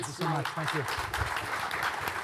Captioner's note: audience applauding